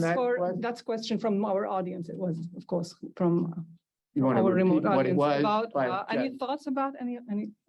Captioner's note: Hebrew